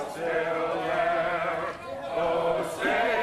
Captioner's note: crowd chanting